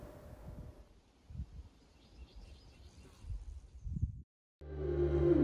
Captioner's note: birds chirping